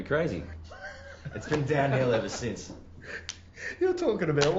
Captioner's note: laughing